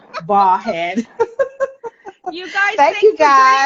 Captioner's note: women laughing